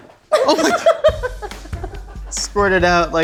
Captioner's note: laughing